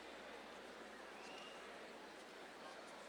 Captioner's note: none